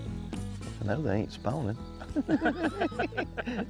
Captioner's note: people laughing; upbeat country music